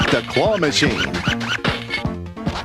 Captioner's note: 8-bit Squeaking